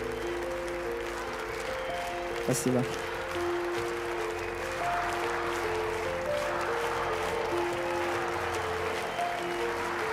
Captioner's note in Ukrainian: оплески